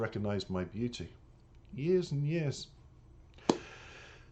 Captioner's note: clapping of the hands